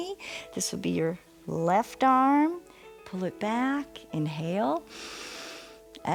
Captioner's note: inhales